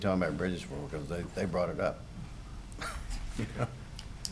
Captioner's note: laughs